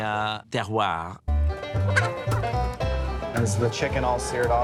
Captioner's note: festive music; chicken clucking